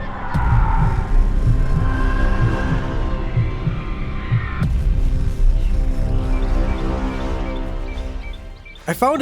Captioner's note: intense music; screaming